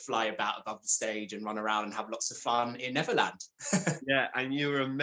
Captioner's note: laughs